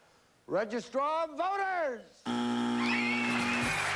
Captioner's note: buzzer